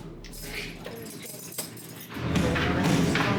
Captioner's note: keys jingling